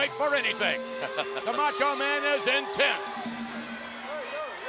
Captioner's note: chuckles